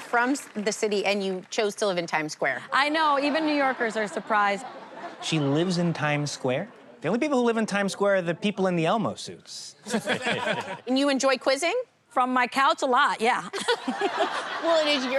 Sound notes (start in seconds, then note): 9.8 laughter